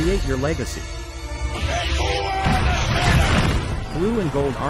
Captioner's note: sailors yelling